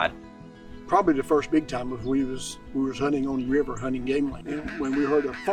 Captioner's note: crow call